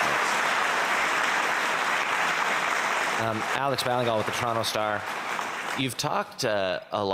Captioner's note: applause